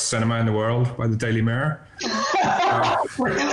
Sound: laughs

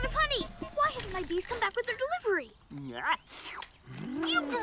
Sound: slurping

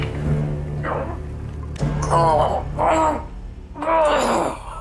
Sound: grunting

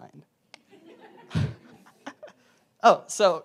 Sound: laugh

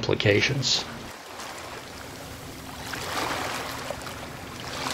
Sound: waves crashing

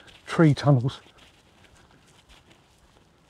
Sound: rustling

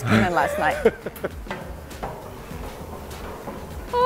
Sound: laughs

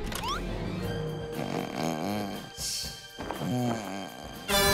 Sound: snoring; fog horn blares

